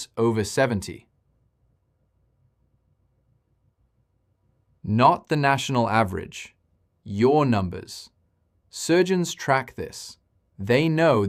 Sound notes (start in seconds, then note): 0.8 pause